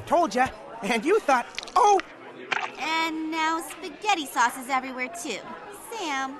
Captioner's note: squirting noise